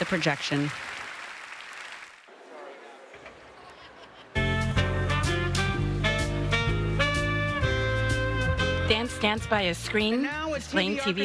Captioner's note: applause